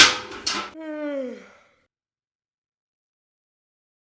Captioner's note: loud yawn